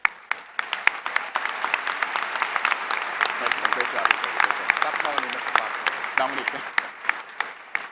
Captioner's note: applause